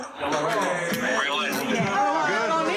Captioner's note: yelling